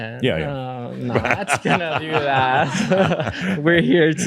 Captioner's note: they chuckle; chuckles